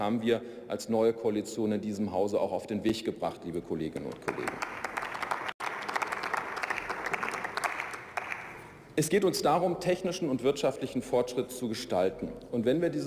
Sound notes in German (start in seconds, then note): 5.9 Beifall